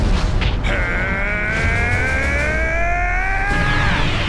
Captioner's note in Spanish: Gritos